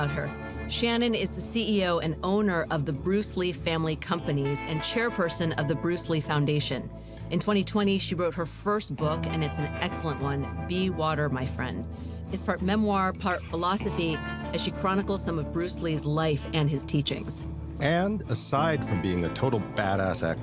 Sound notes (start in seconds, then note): none